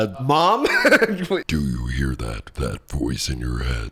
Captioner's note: laughs; raspily